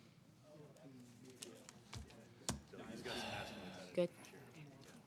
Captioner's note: participants chatting indistinctly